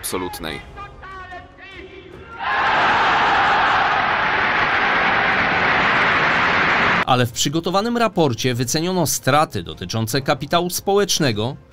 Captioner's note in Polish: Aplauz